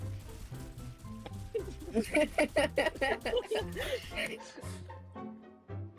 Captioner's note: laughing